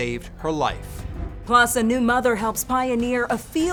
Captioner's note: graphics whooshing